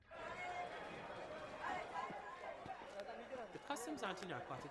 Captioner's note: people chattering